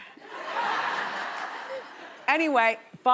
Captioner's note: audience laughing